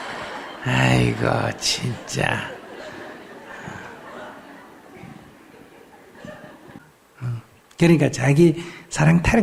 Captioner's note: audience Laughter